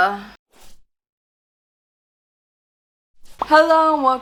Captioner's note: popping; whooshing